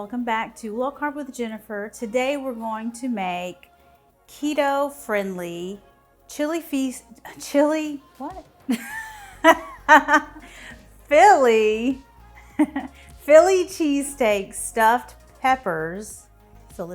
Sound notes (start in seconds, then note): 8.7 laughing